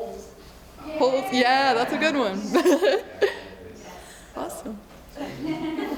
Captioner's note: laughs